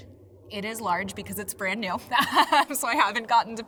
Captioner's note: laughs